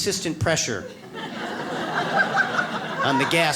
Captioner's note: audience laughs